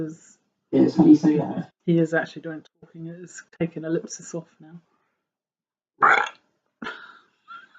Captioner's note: does an unexpected huge burp